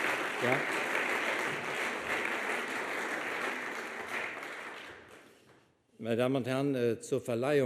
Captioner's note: speaks German